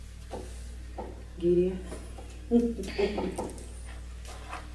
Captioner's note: laughing